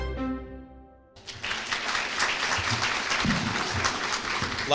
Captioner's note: applause